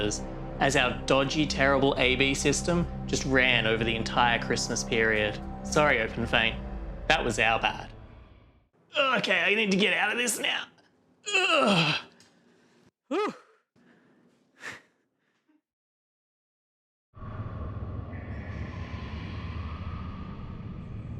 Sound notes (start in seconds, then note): 11.2 general struggling sounds